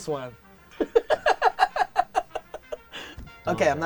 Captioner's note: laughing